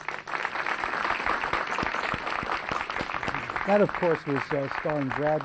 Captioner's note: applause